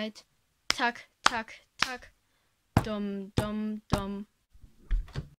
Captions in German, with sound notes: Tak tak tak Dum dum dum (door closes)